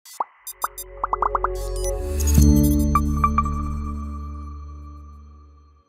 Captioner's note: symbols popping; bright music